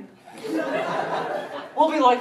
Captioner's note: laughter